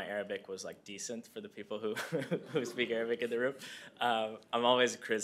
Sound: laughter

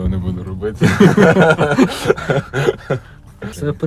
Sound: laughing

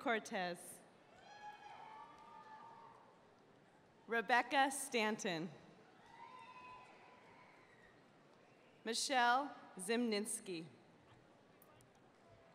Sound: cheers and applause

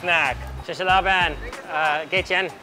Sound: speaking in foreign language

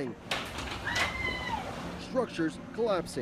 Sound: screaming

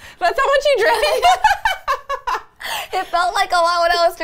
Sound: laughing

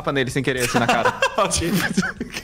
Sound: laughs

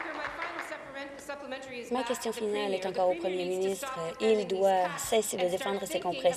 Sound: applause

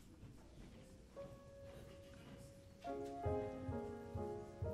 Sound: none

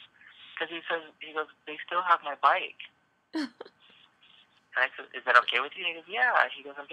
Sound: laugh cry

